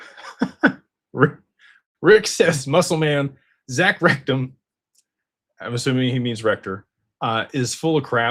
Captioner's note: laughter